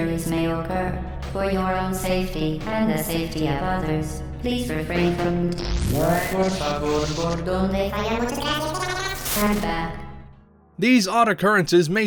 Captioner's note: static, weird gibberish